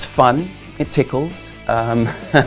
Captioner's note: chuckles